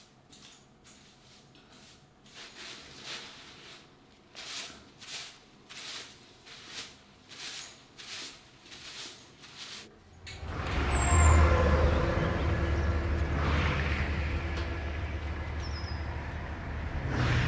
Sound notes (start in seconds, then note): 10.0 traffic roaring; 15.1 birds chirping